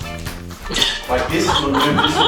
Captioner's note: groovy music; woman laughs